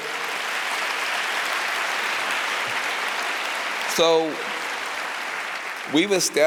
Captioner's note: applause